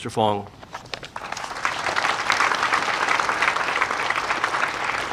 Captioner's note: audience applauding